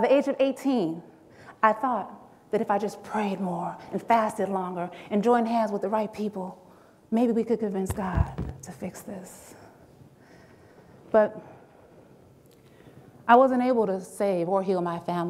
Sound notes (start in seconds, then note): none